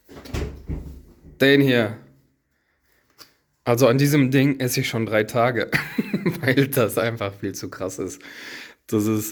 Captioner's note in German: gelächter